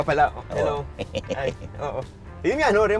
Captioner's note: chuckles